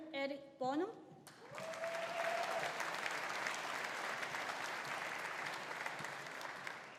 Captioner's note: audience applauding; audience cheering